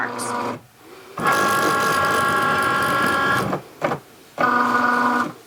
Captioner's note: printer whirring